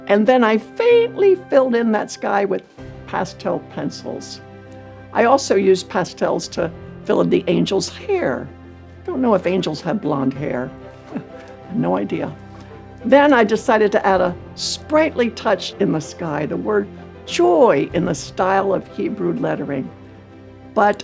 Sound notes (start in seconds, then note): 10.8 chuckles